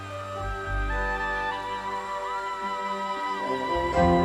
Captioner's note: crowd cheering